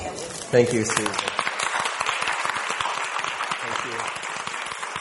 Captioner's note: audience applauding